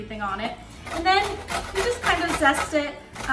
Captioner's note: grating